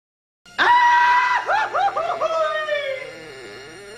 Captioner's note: goofy Screaming